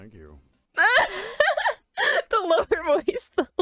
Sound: laughs

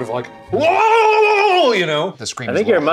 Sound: screams

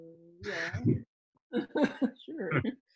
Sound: both laughing

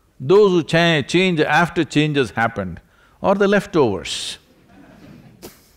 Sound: few laugh

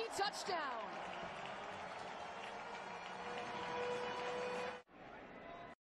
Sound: applause and siren

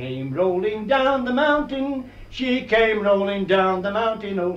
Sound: none

